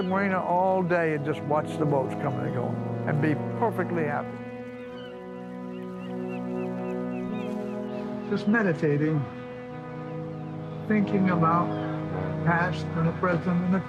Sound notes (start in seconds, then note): 5.7 seagulls squawking